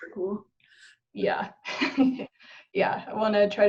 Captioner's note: chuckles